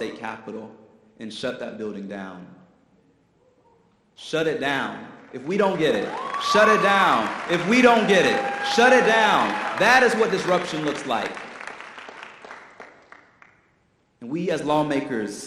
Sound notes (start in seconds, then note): 10.6 audience applause